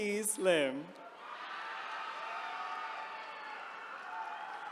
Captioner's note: attendees cheering